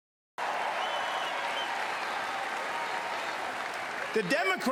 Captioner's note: crowd cheers